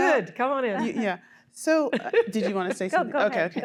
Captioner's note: laughter